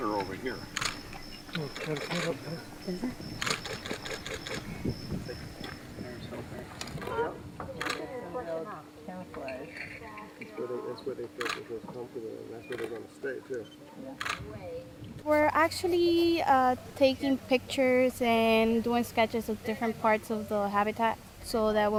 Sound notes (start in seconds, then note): 3.4 camera shutters clicking